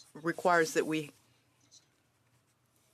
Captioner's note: speaking French